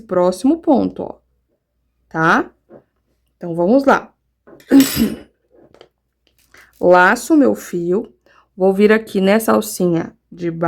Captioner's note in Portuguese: tosse; limpando a garganta